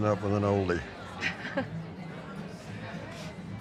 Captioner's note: laughs